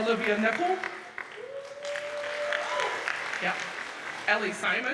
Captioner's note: audience cheers and applauds